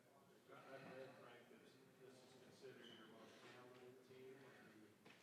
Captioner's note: faintly speaking